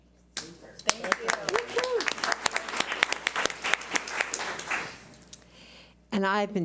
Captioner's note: audience applauds